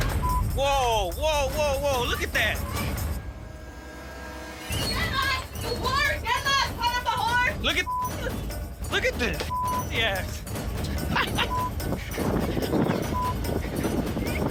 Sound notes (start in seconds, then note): 4.5 clerk shouting; 10.9 man laughs